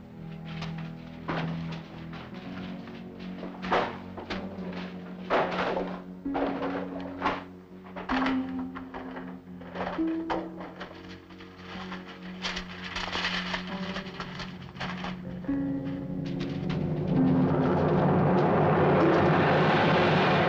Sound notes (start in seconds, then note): 3.7 books clattering; 11.2 papers rustling; 16.9 ominous music intensifies